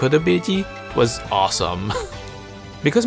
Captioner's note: chuckle